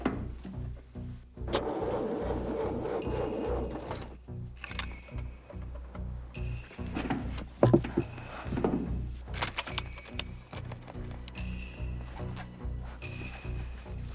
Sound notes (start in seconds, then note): 1.5 engine struggles